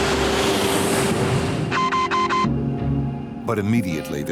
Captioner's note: beeping